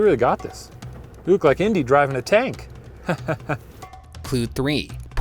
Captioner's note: chuckles